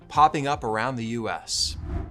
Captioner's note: airy electronic music; graphics whooshing